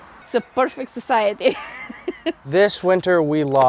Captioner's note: laughs